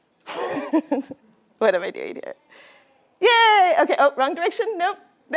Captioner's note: laughter